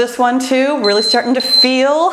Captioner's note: timer beeps